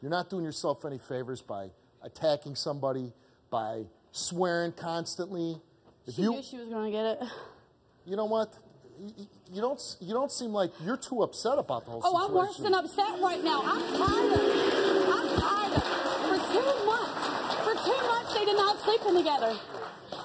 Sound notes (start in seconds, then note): 13.2 audience jeering; 14.4 audience applauding